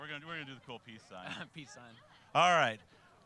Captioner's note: chuckling